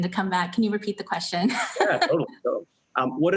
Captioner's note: laughs